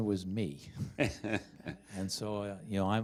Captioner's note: chuckling